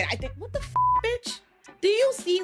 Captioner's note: beep